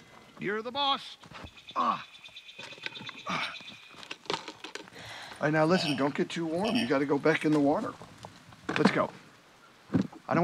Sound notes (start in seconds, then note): 1.8 wolf groaning